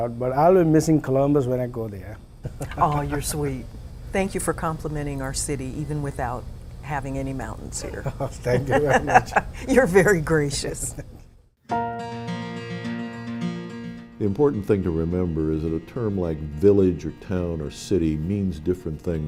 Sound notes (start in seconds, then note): 3.1 ^laughter^